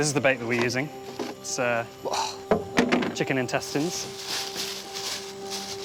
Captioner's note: exhales